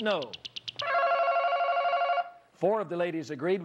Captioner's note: ringing